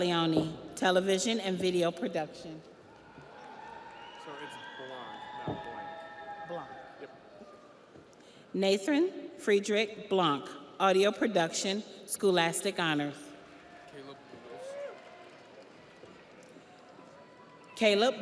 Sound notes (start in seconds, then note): 2.9 audience cheers; 2.9 audience applauds